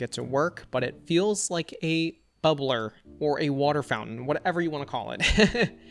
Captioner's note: laughs